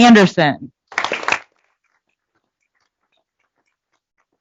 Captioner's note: applause